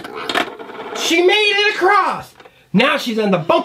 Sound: voiceover

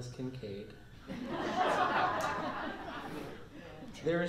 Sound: laughter

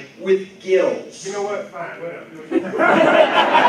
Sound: laughter

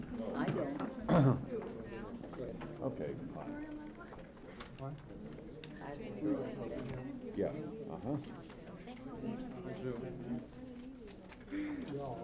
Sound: hallway and crowd noise; second woman talking

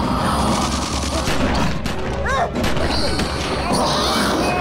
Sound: shouting

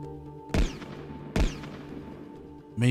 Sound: gunshots

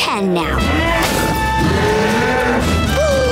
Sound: mooing; gasping

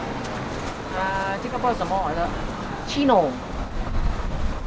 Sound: chinese

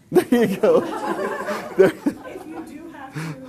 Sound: laughing

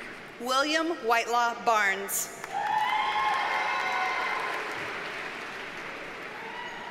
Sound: audience cheers and applauds

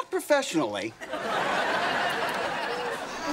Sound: laughing

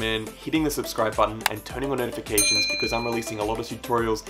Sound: bell dings

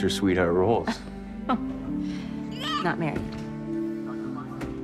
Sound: laughs

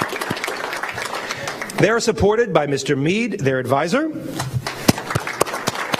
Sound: applause

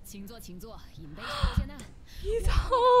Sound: less aggresive inhale

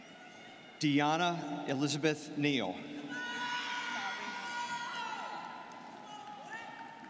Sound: students cheering

